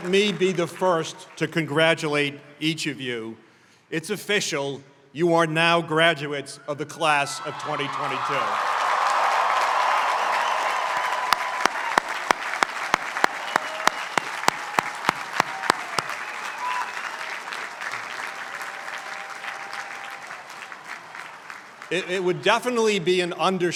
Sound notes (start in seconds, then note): 7.7 applause